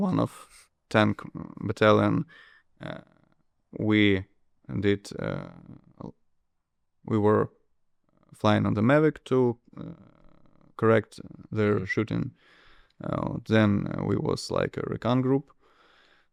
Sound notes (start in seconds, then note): none